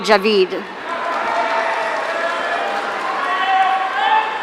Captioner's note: audience cheering